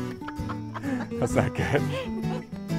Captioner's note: laughter